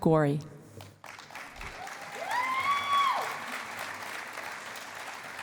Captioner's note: cheering and applause